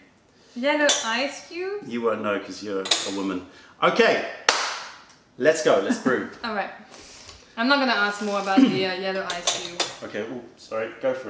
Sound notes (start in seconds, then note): 5.7 laughter